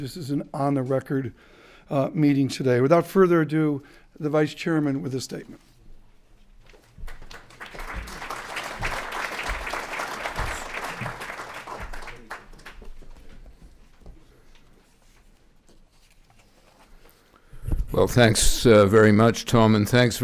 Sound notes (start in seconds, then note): 7.0 applause